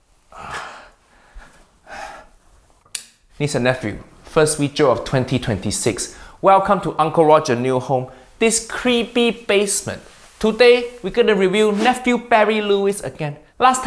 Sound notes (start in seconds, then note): 0.4 speaker groans; 2.8 button clicks